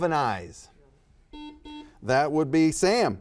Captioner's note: buzzer buzzes